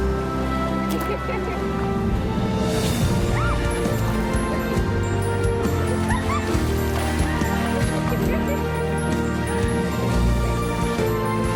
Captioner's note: giggling, water splashing